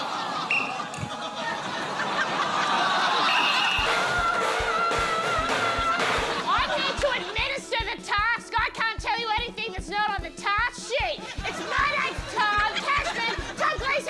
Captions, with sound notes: (BLOWS WHISTLE) (LAUGHTER) (BLOWS WHISTLE) A-a-a-a-a-a-a-a-a-a-a-a-rgh! I need to administer the task! I can't tell you anything that's not on the task sheet! My name's Tom Cashman!